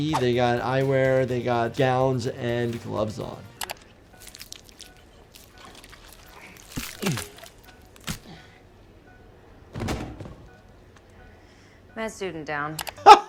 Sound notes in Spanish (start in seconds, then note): 4.0 el monitor de pulso emite un pitido